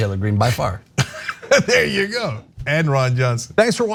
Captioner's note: laugh